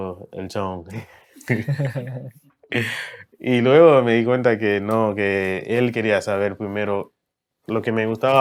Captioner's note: laughs